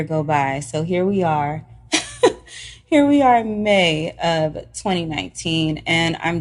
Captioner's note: laughs